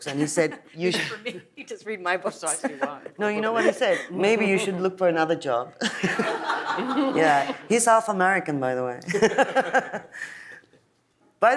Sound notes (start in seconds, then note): 2.2 laughs; 5.9 audience laughs; 10.8 laughs